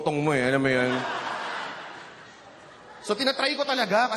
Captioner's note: laughter